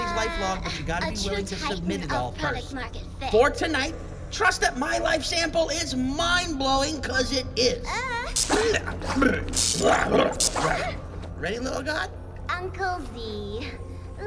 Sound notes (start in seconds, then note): 9.1 ack